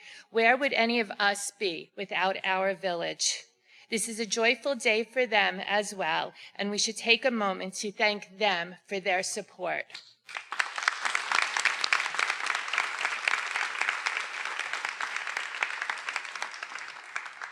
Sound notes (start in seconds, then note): 10.2 everyone applauding